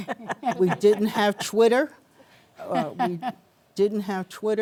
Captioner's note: panelists chuckling